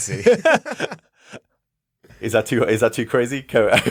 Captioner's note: laughing